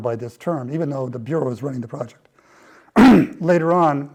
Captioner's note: cough